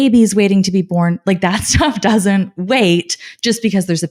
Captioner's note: laughing